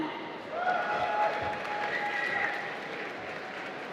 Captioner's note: applause